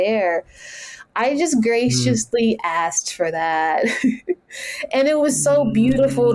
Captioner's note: chuckles